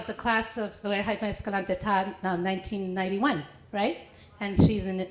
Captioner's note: foreign language